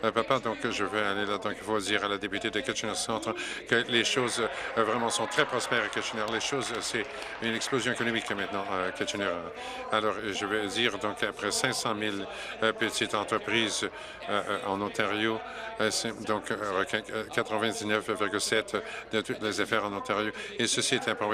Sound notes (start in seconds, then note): 10.0 applause